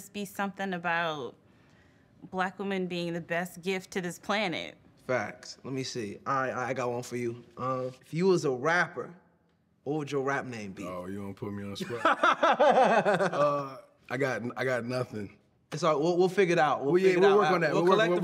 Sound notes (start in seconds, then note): 11.8 laughter